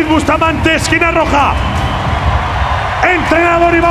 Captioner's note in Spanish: Gritos